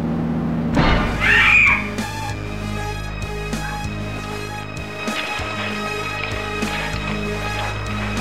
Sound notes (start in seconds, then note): 0.7 orchestra hit; 1.1 scream; 5.0 slaps